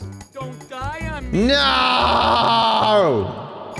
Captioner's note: voice echoes